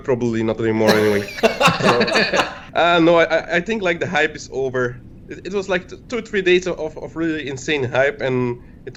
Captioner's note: laughs